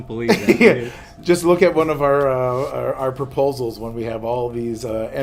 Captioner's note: laughs